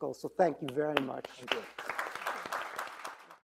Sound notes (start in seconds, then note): 0.5 clapping hands; 0.7 audience applauding